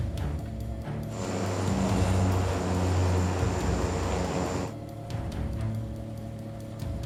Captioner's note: sinister music; humming